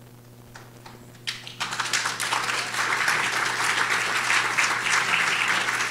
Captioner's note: audience applauds